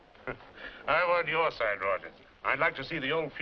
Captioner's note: chuckles